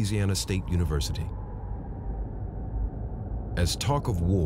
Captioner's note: wind blowing